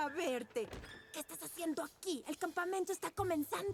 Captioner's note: angry whisper